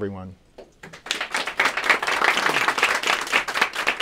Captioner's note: applause